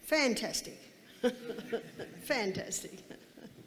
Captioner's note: laughing